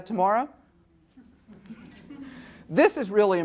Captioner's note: audience laughing